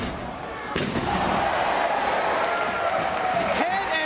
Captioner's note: spectators cheering